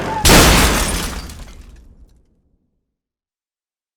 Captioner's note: car crashing